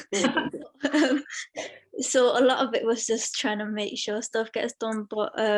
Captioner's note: laughter